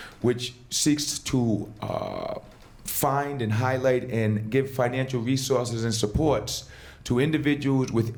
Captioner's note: none